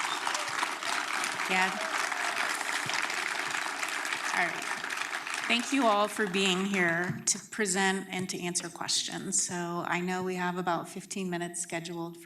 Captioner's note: applause